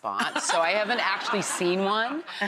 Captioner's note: audience laughs